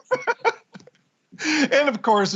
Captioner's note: laughter